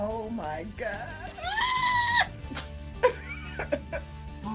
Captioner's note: screams